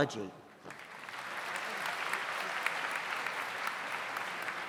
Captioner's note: audience applauds